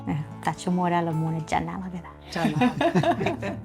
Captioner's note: speaking foreign language; laughing